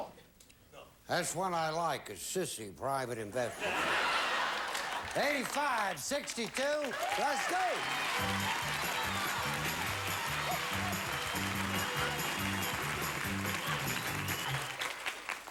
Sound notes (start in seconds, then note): 3.5 audience laughing; 8.9 audience applauding